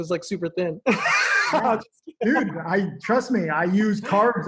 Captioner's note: laughs